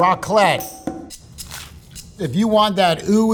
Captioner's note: upbeat music; sandwich rustling